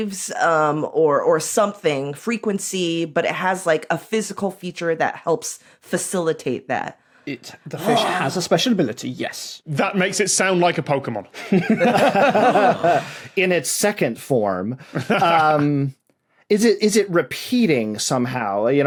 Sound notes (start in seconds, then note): 11.4 laugh; 15.0 laughs